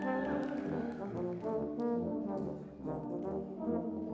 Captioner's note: audience cheers